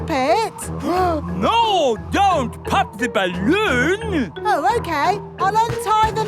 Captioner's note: gasps